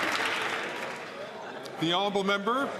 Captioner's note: some Applause